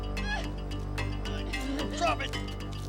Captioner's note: girl squealing